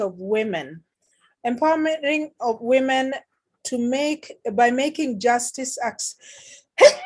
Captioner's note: coughs